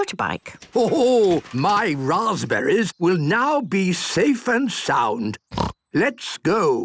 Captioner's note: snort